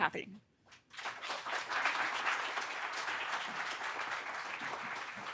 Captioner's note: audience applauding